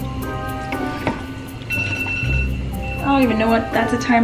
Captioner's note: alarm beeping